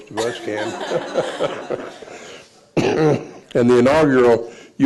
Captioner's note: laughing